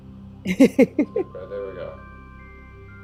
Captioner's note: laughs